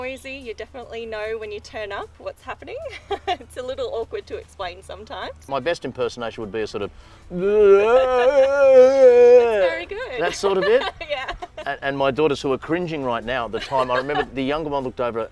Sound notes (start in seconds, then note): 7.3 grunts and noises